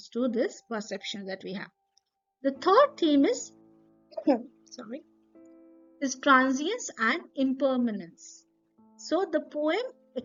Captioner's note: coughs